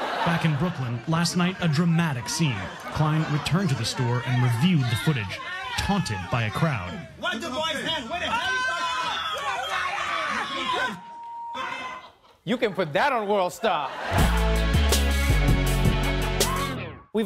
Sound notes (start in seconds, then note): 9.3 crowd shouting; 14.2 intense electronic music